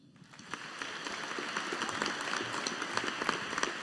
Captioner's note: audience applauding